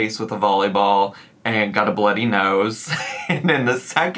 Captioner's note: giggles